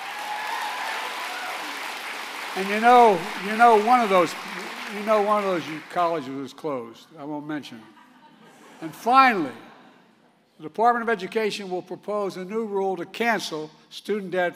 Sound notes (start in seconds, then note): 0.0 applause; 7.8 laughter